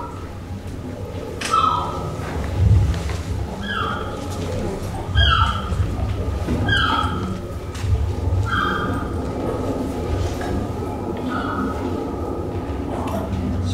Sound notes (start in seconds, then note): 0.0 gulls crying